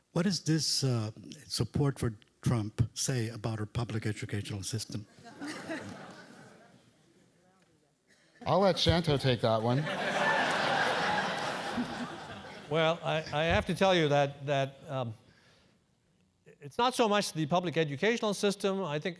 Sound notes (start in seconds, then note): 5.2 laugh; 9.8 laugh